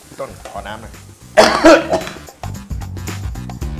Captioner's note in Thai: เสียงไอ